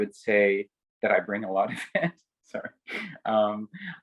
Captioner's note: laughs